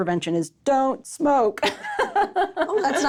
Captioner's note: laughs